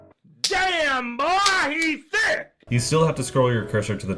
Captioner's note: booty slap